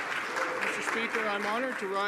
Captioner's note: applause